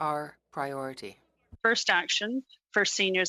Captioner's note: speaking French